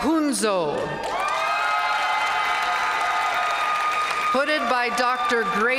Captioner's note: audience cheering